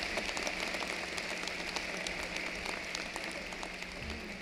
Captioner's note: cheering and applause